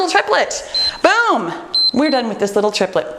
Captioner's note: timer beeps